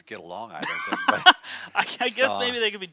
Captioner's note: laughs